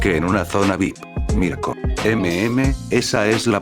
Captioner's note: surprised